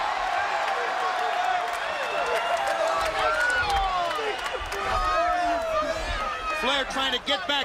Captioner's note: crowd cheering